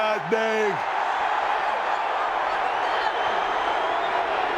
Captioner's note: audience cheering